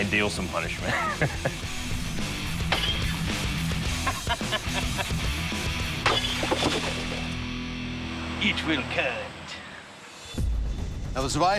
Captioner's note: chuckles